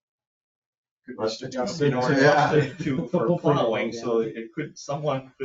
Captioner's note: people chattering